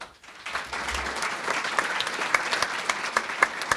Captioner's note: crowd applauding